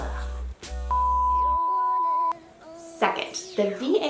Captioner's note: loud beeping